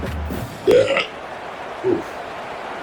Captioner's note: crowd Noises